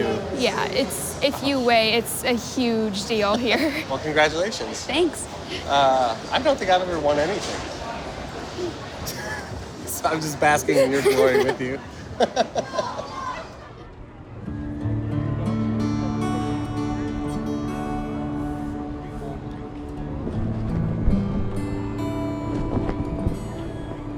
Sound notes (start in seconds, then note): 10.6 laughs; 10.6 both laugh